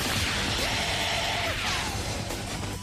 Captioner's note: screams